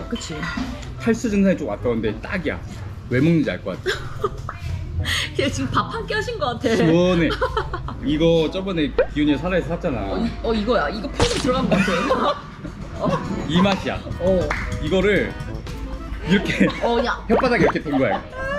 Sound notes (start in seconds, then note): 7.3 laughing